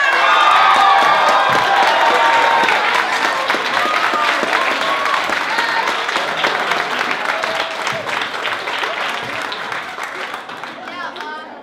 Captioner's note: cheering